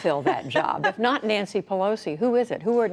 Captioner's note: laughter